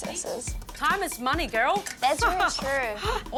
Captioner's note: giggles